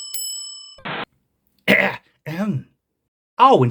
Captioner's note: ahem